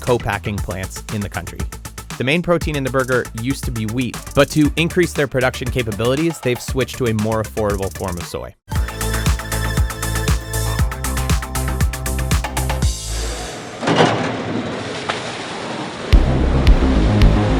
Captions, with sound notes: co-packing plants in the country. The main protein in the burger used to be wheat, but to increase their production capabilities they've switched to a more affordable form of soy. (groovy music) (splashing)